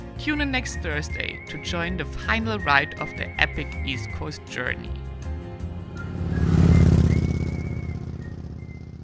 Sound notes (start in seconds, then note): 5.3 slow upbeat music; 6.4 engine roars